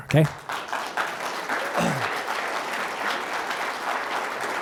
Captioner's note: applause